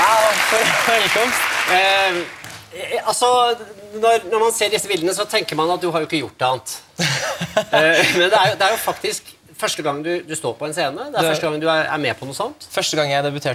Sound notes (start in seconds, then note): 7.0 laughs